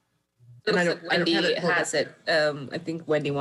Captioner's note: overlapping chattering